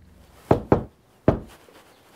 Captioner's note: door knocking